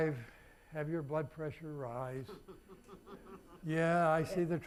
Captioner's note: audience laughing